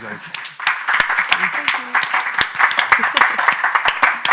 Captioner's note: applause